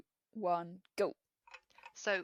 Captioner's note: tick tock noise